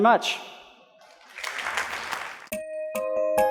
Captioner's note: applause